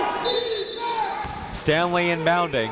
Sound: whistle blows

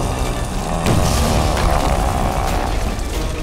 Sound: growling

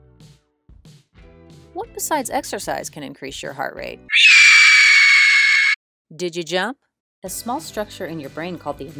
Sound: spider Screech

